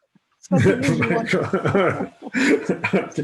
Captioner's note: laughter